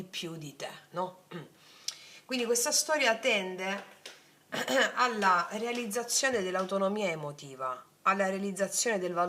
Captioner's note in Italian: schiarire la voce